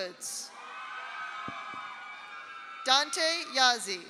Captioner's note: audience cheers; audience applauds